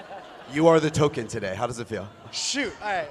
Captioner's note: laughter